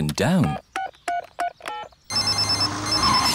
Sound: beeping; phone ringing

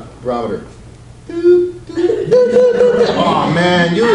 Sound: beeps

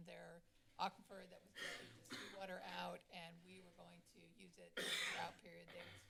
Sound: cough; coughs

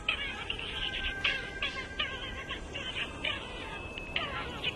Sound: voice talking on the phone

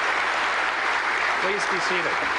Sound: applause

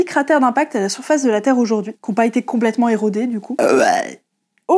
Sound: distinguished burp

